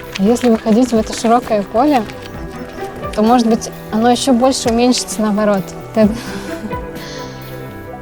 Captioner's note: laughs